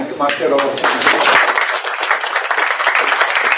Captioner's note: applause